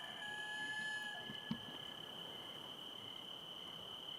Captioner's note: none